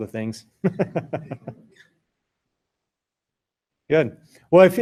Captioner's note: laughter